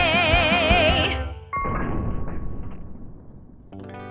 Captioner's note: a gunshot rings out